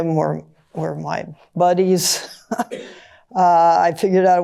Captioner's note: chuckles